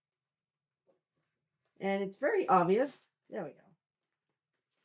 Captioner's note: silence